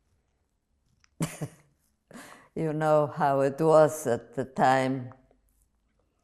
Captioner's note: laughing